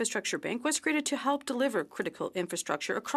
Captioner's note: speaking in French